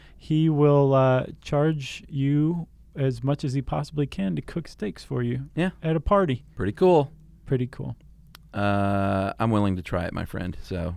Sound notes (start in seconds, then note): none